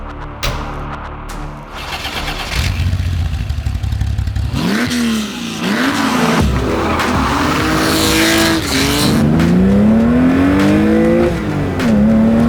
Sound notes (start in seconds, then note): 2.0 car engine roaring